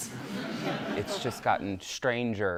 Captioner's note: laughter